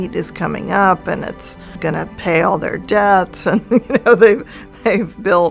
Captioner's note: laughs